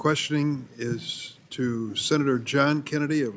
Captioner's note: gavel